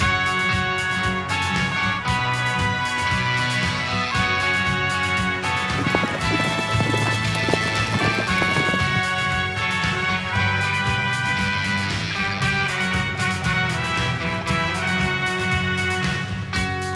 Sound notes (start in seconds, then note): 6.4 guns firing